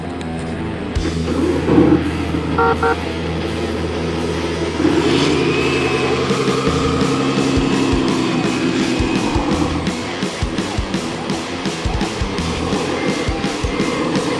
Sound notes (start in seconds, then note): 2.5 car horn blowing